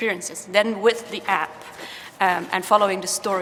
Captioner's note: footsteps clopping